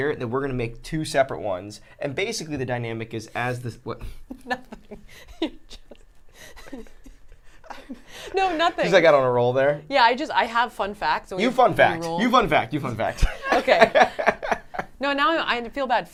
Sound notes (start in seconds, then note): 4.0 laugh; 4.2 laughs; 13.1 laughs